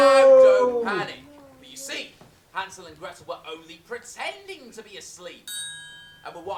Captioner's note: scream; ping